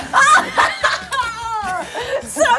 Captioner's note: laughs